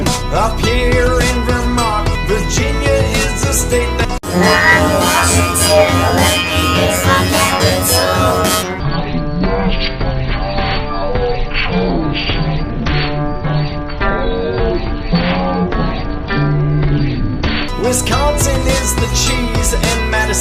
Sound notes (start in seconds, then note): 4.2 alien voice